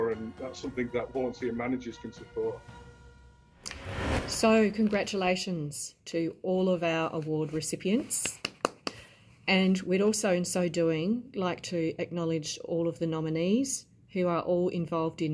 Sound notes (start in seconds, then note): 3.6 air whooshing; 8.2 clapping